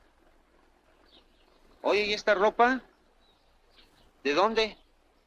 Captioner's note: officer speaks Spanish